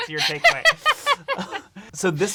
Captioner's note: laughing